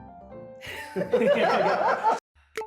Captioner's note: laughing